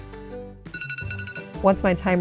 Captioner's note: timer goes off